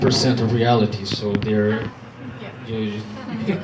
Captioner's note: laughter